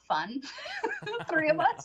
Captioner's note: laughing